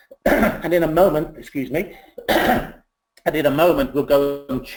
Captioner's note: coughs